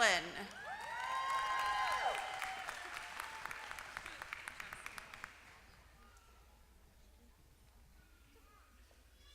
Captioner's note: applause